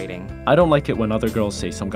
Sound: voiceover

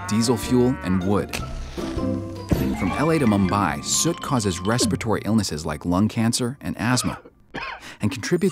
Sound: trunk horn; man coughs

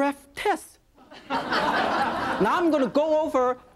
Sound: audience laughing

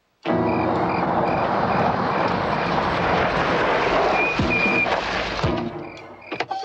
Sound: tense music; brakes squealing; door slams

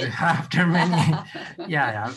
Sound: laughter

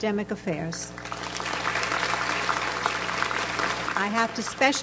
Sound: audience applauds

